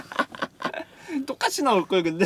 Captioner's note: laughter